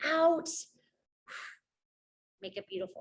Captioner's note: exhales